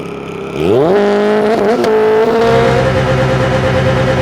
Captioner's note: revving